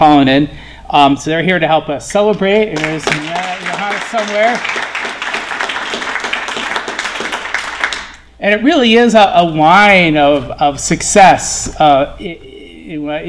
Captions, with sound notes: Matt Comstock and Johannes Pollanen so they're here to help us celebrate (Applause) And it really is a, a line of, of success.